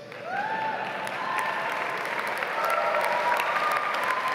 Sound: audience applauds

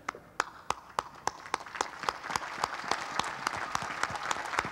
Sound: applause

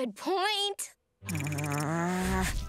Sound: gasping; growling

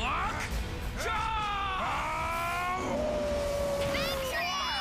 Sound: howling

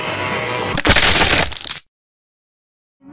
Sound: Loud sound effect of Kuwagamon crunching their bones

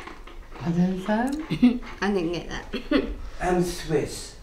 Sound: laughs

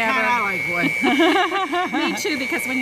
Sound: both laugh

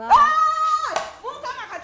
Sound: Maama Nalu screams in disbelief

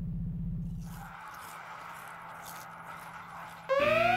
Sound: munching; alarm blaring

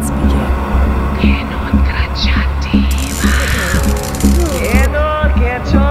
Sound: chanting in foreign language

